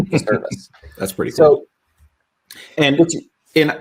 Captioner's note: laughing amusingly